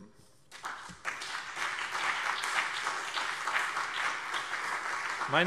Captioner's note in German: Beifall BÜNDNIS 90/DIE GRÜNEN und CDU